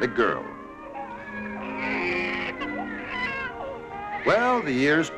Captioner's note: babies crying